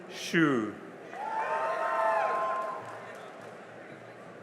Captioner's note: cheering and applause